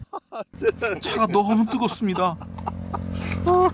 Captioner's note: A burst of laughter because the tea is too hot